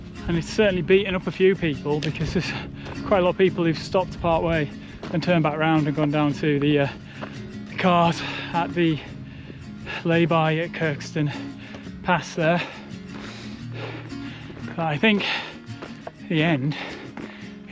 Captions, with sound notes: and it's certainly beaten up a few people because there's quite a lot of people who've stopped partway and turned back around and gone down to the cars at the layby at Kirkstone Pass there. (breathes heavily) But I think the end is in sight.